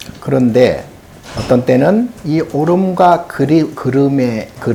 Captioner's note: speaking Korean